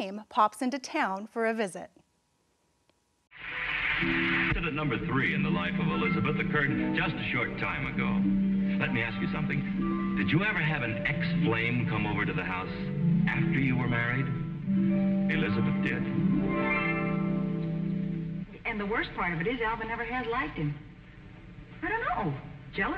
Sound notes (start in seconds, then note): 4.4 audience applauding; 4.4 harp music